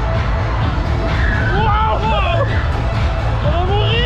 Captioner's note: screams